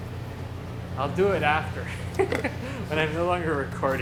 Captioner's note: laughs